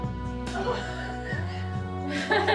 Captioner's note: laughs